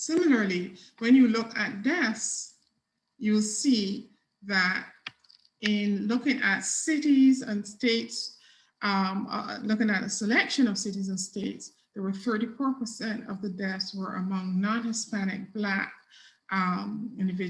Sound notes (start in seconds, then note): none